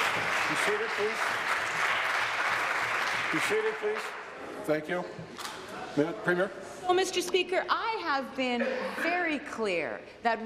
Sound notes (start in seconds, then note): 3.2 some Applause